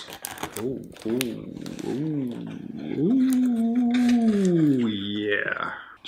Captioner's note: sounds of pleasant surprise